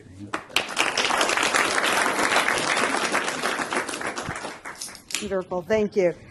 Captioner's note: applause